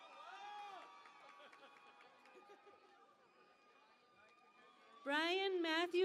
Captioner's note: cheering and Applause